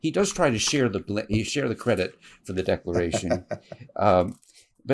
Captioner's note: laughs